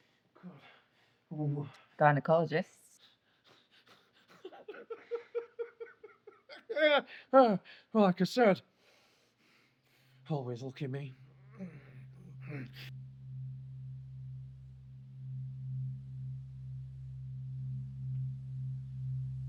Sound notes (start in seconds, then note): 3.0 Solent laughing; 7.3 groans; 12.9 soft ominous tone